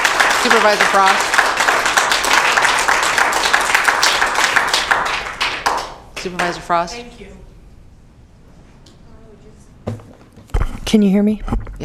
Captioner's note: applause